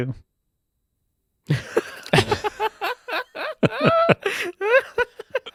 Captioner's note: laughing